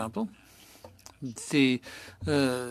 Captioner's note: speaking French